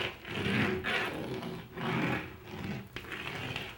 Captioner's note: sound of chalk on textured wall